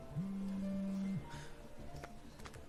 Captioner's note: sighs